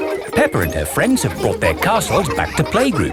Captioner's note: children laughing